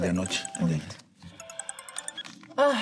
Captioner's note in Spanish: Suena el celular